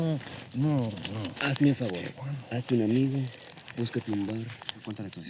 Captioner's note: speaking spanish